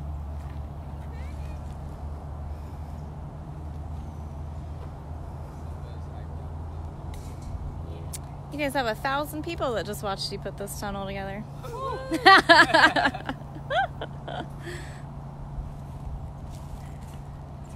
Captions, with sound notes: You guys have a 1,000 people that just watched you put this tunnel together. [Laughter]